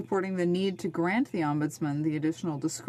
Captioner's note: speaking French